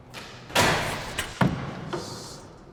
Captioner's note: door clatters